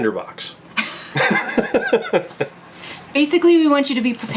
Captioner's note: laughing